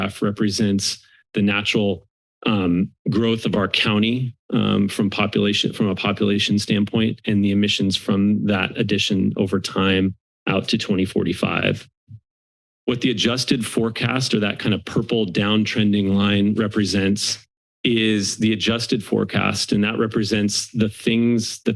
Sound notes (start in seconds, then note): 11.9 silence